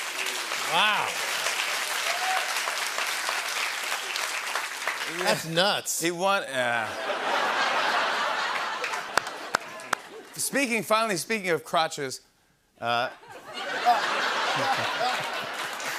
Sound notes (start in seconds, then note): 2.5 applause; 6.9 laughter